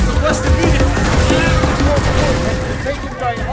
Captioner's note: sound of explosion; stutering radio chatter